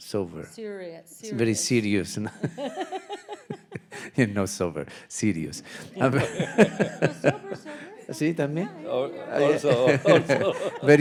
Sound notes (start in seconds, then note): 1.4 laughing; 8.3 speaking in Spanish and laughing